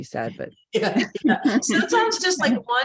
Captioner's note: laughing